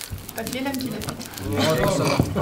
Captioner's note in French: rires